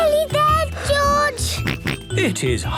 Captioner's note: panting; snorts